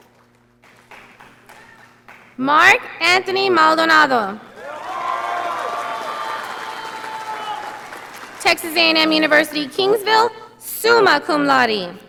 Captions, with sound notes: Mark Anthony Maldonado. (audience applauding) Texas A&M University Kingsville, summa cum laude.